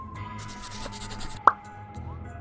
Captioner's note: pencil scratching